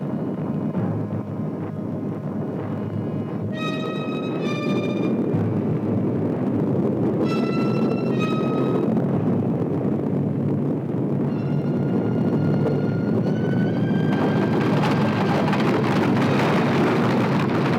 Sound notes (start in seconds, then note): 1.5 thunder